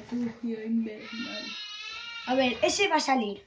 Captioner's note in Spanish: llorando